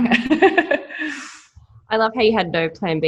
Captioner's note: laughing